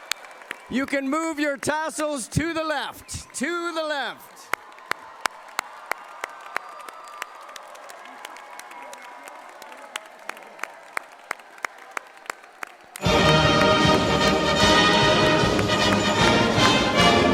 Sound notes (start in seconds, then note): 4.3 cheering and applause